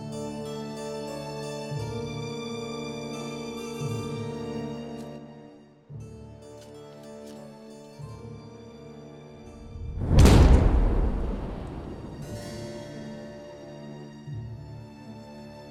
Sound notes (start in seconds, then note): 10.0 shovel striking; 12.2 soft music